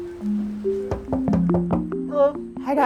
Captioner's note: knocking